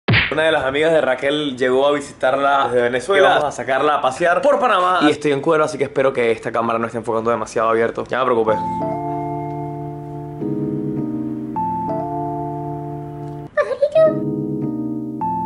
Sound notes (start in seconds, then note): 13.5 silly voice